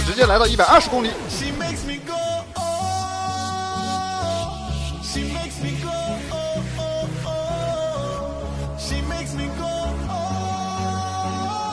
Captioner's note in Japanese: 擬音